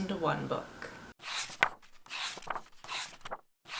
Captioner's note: pages turning